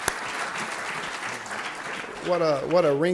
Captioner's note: applause